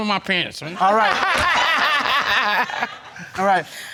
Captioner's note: laughing